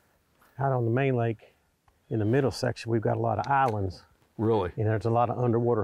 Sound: voiceover

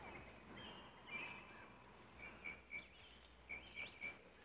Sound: birds whistling

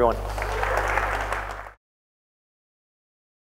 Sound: applause

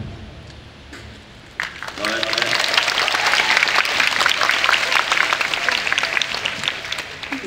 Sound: applause

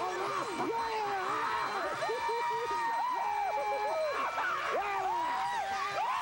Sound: cheers and applause

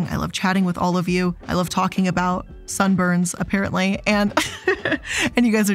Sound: laughs

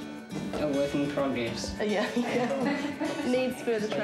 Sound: laughter

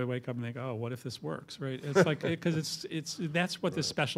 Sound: laughter

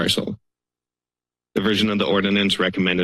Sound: pause

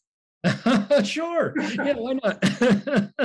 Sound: laughing

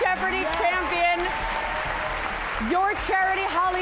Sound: cheers and applause

